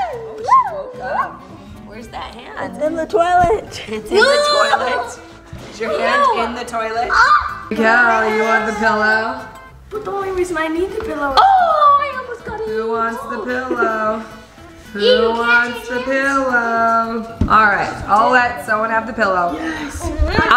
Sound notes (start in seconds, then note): 4.5 laughing